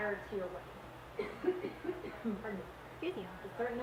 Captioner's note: coughing